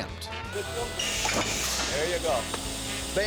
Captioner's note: thud; claps